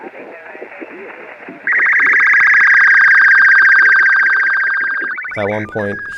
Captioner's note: beeping